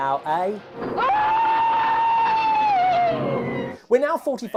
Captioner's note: monster scream